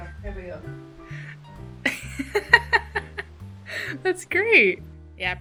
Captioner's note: laughing